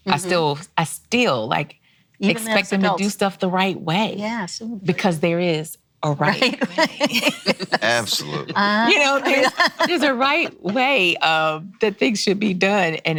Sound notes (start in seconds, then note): 6.3 laughs